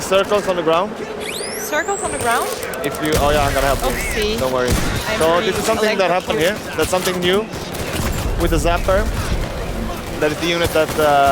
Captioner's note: gunfire